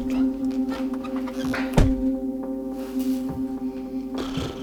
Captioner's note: door slams